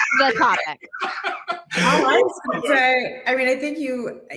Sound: laughs

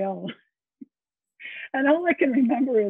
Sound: laughs

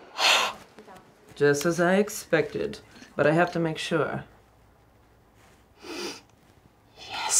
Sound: sniffs

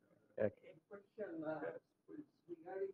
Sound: off microphone

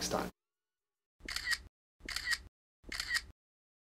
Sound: shutter clicking

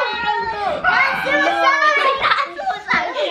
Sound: screams

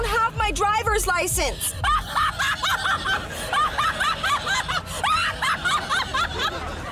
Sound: laughing

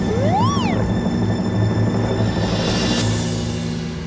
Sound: slide whistle; cymbal crashes

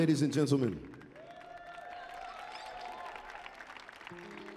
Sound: crowd cheers

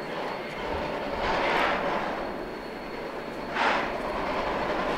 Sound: rapid chugging from rotary; slow chugging from locomotives

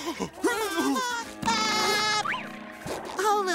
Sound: laughing

